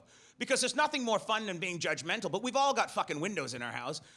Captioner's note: none